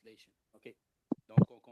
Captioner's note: speaking French